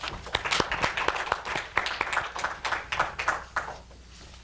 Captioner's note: attendees appluading